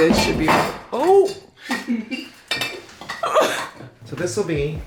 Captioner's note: jars falling over